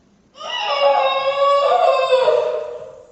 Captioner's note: muffled scream